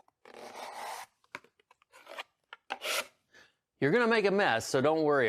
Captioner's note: scooping